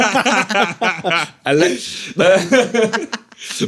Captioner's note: all laughing